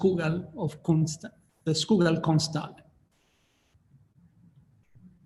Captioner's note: speaking in foreign language